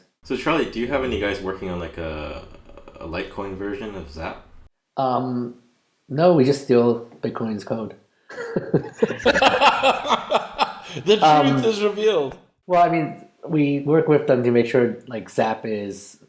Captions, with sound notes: So Charlie, do you have any guys working on like a Litecoin version of Zap? No. We just steal Bitcoin's code. [Laughs]. The truth is revealed. Well I mean, we work with them to make sure Zap is -